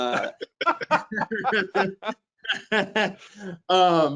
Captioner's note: all laughing